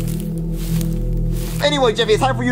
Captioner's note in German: Schritte